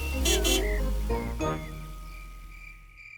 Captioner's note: horn honks